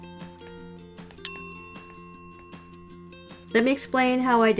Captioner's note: bell rings